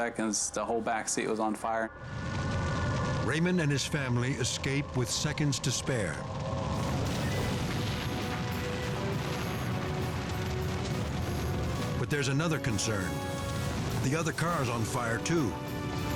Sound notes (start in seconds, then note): 6.4 fire roaring; 7.8 dramatic music